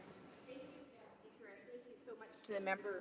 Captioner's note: speaking French